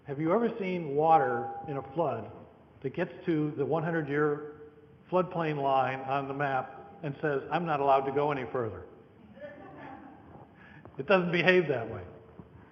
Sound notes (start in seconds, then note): 9.6 audience laughter